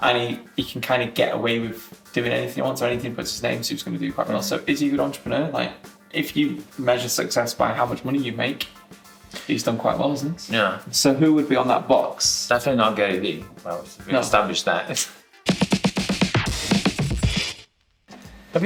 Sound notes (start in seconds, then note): 15.2 laughing; 16.0 upbeat quick music